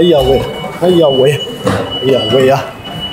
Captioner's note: moaning sound